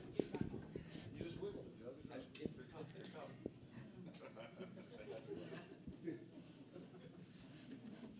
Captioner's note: audience Laughter